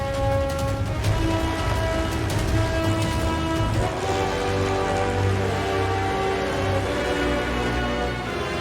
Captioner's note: plane engine